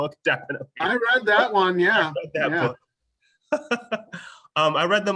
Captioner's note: laugh